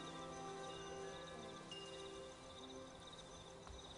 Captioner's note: chime ringing softly